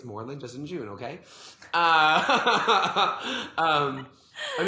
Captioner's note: laughs